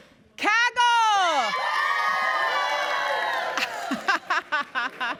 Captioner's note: cheering